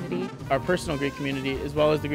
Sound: voiceover

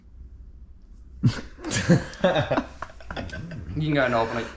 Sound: laughing

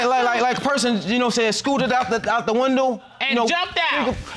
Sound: stammers

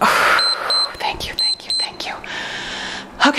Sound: timer beeps

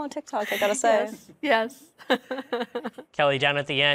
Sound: laughs

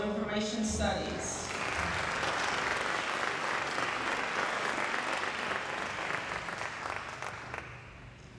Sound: applause

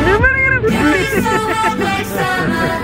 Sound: laughs; upbeat music

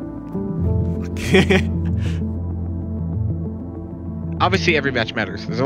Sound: laughs

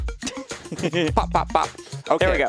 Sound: laughing

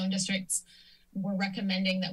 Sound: inhales

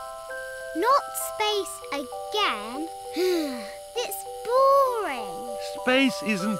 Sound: sighs

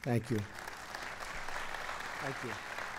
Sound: applause

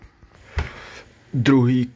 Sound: breathing

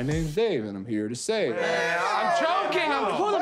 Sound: groaning

